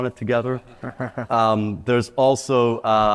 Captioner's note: laughs